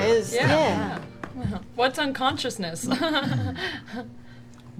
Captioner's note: nervous laughter